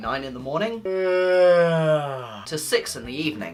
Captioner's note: yawn